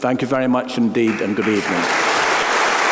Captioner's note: applause